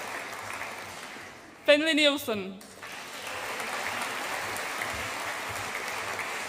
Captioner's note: audience applauds